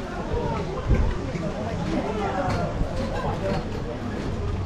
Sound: restaurant chatter

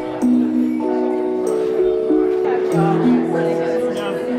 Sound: chattering

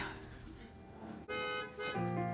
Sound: car honking

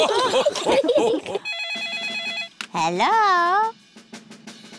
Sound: all laugh; phone rings

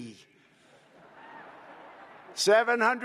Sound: laughter

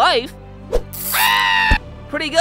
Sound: mammoth screaming

